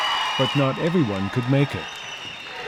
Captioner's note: crowd cheering